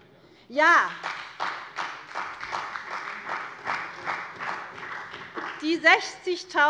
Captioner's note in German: Beifall bei der CDU und dem BÜNDNIS 90/DIE GRÜNEN